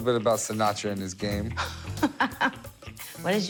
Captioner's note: laughs